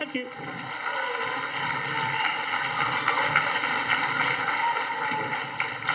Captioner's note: audience applauding